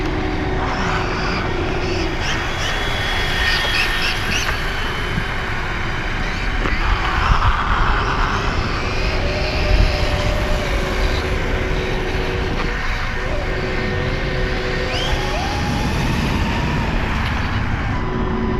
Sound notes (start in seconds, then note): 1.9 electric motor sounds; 14.2 electric motor screaming